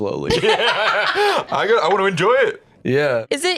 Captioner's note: laughing